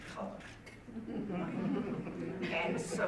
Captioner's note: audience laughing